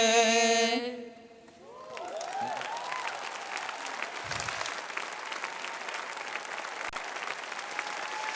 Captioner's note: applause